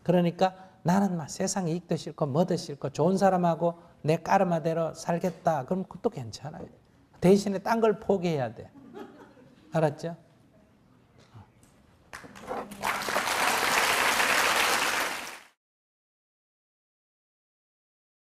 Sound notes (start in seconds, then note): 12.1 applause